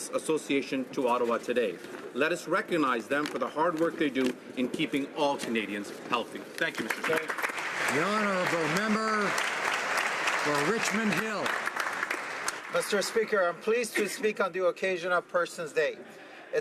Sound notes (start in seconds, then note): 11.4 applause